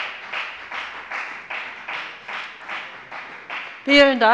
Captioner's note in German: Beifall bei der FDP